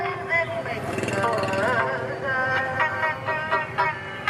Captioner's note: motor putters